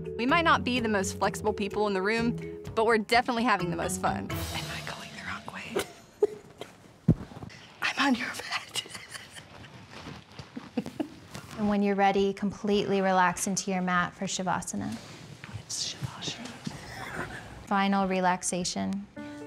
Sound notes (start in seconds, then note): 7.7 both laughing; 16.8 laughing